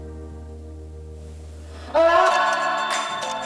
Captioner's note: screams